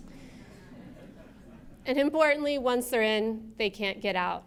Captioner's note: laughter